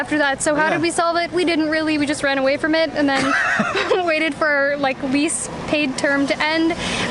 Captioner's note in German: Gelächter